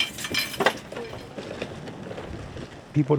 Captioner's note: wheelchair rolling